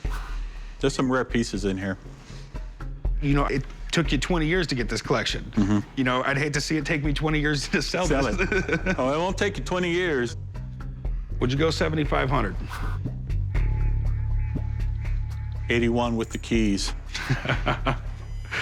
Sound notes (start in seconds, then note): 7.6 laughs; 15.6 laughs